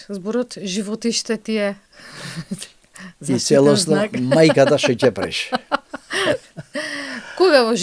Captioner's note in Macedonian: смеа